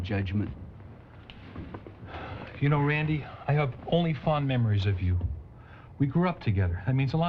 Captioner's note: sighs